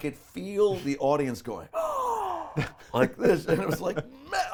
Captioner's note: gasps